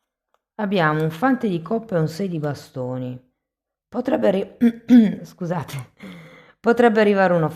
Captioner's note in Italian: schiarire la voce